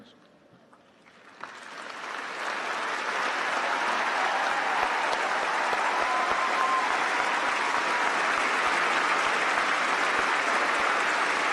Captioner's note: applause